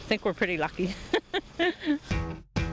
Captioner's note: chuckling